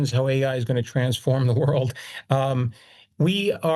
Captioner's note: laughs